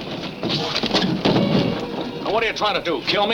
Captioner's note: box clatters